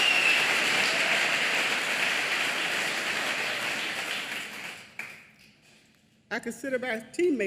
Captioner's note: applause